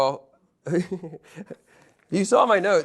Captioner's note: laughing